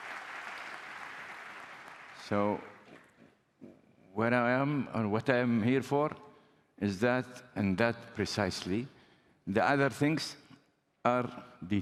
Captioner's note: applause